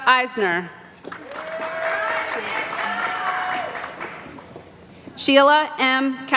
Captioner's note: applause